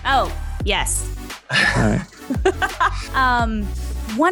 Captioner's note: laughs